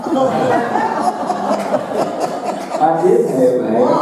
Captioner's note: audience laughing